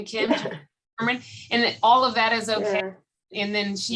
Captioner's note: laughter